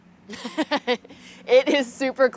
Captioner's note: laughs